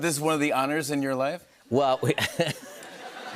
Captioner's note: laughter